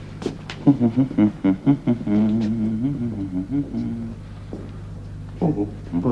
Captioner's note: hums